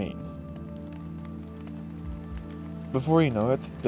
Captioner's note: rain sfx